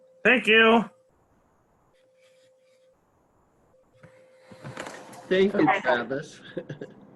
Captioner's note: giggling